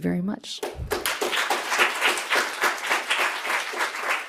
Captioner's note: audience applause